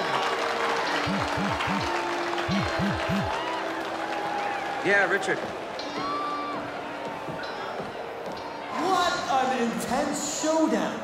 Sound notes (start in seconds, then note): 1.4 phone buzzing